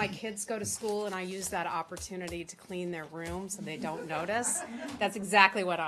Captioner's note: laughter